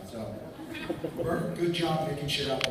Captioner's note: laughter